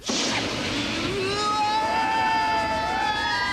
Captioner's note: screaming; siren blaring